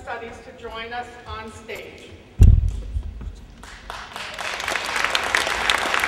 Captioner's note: applause